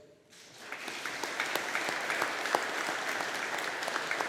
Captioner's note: audience applauding